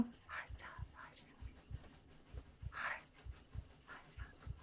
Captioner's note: Deborah softly whispers